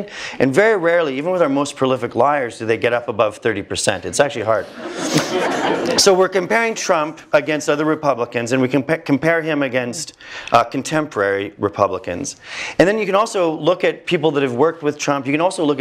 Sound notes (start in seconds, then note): 4.7 laugh